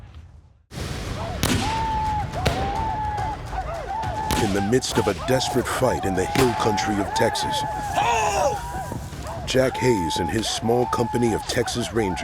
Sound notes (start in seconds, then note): 1.0 gunfire